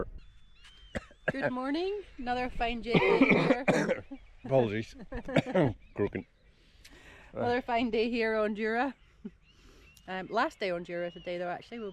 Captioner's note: cough